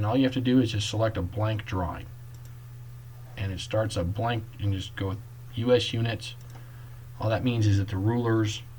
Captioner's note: click